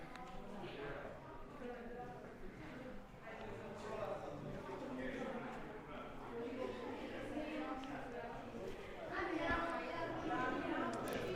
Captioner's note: background chatter